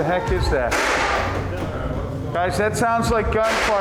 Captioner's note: gun fires; gun fires